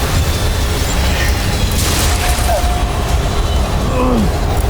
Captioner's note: powerful whoosh-crackle; sparkling whoosh; powerful blast-crackle; powerful whoosh-crackle; grunts